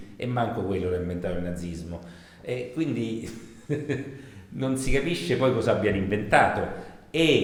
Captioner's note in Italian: risatina